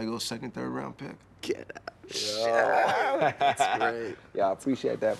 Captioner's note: Radar laughs